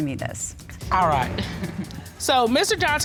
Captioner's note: chuckles